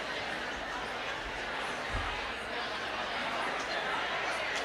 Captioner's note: audience chatting